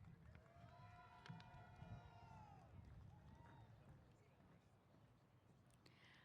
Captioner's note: cheers